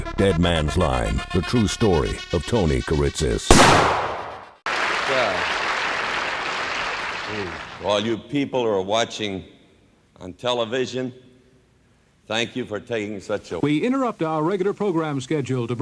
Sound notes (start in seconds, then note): 3.5 gun blasting; 4.6 audience applauding